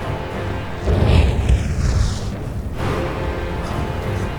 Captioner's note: air whooshing; dramatic orchestral music